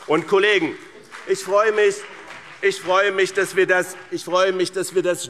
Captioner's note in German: Beifall BÜNDNIS 90/DIE GRÜNEN und CDU